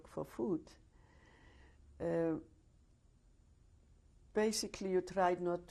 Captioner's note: pauses for 3 seconds